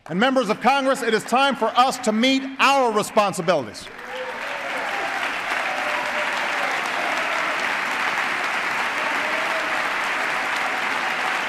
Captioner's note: applause